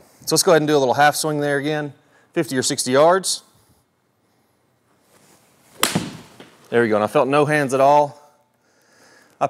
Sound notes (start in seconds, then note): 5.7 golf ball smacks; 5.7 golf club whacks